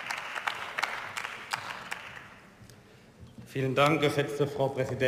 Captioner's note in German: Beifall